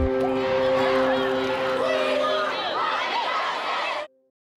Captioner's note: protestors chanting